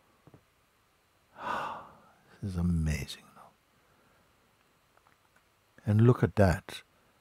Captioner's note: long exhale